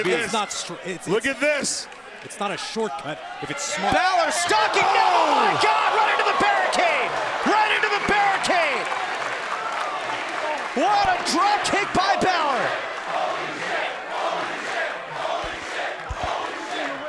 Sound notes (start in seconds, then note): 12.9 crowd chants "Holy shit"